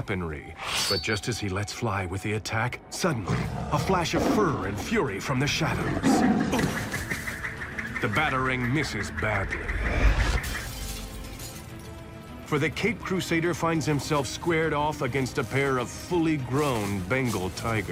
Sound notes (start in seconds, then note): 6.1 growls; 10.0 crash